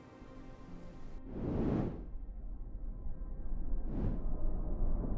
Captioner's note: whooshing